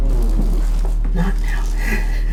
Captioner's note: nervous laugh